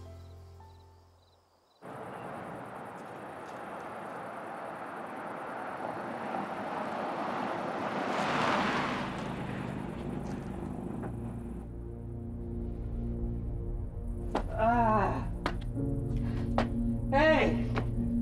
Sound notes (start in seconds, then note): 12.3 tense music; 14.9 man grunts